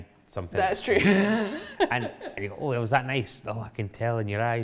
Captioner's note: laughs